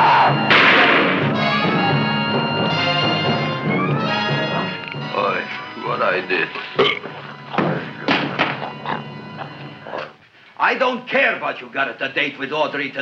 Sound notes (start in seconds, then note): 0.4 shot firing; 1.5 music intensifies; 5.8 Audrey Jr. burps; 7.5 gun thuds